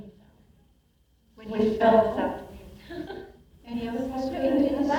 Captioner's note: laughs